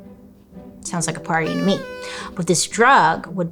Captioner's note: party horn blows